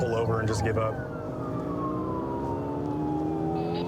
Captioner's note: siren blaring